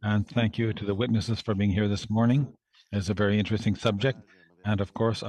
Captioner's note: speaking French